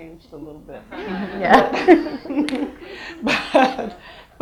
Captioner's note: audience laughs